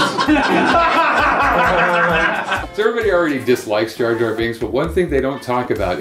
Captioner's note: laughter